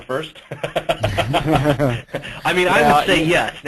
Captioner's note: laughter